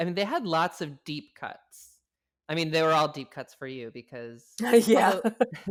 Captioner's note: laughs